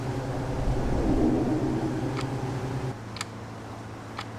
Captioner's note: clock ticking